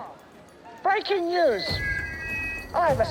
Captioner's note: feedback squeals